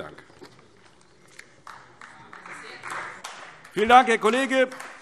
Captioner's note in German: Beifall AfD